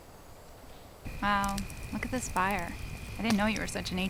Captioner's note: fire crackling